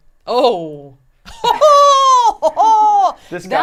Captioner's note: vocalizes and laughs